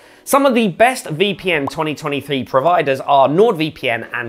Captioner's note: soft popping